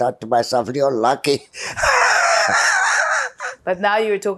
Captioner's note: laughing